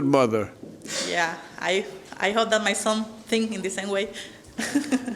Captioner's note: chuckles